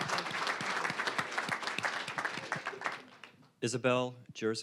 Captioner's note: applause